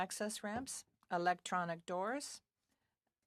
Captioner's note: speaking French